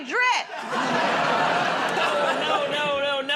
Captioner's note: laughter